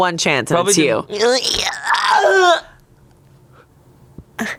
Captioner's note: groans